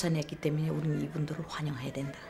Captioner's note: continues speaking korean